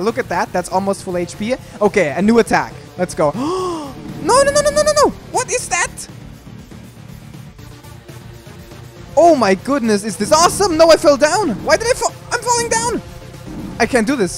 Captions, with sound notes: that's almost full HP. Okay a new attack. Let's go- *gasps* Nonononononono! What is that?! Oh my goodness, is this awesome! No, I fell down! Why did I fa- I'm falling down! I can't do this-